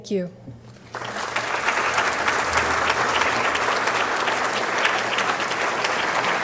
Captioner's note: applause